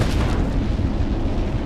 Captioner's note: rocket exploding